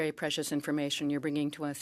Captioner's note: speaking French